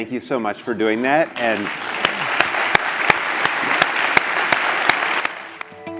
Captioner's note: applause